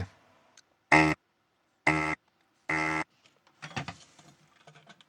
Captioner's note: buzzer Buzzing